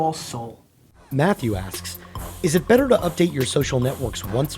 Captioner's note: voiceover